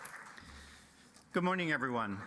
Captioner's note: applause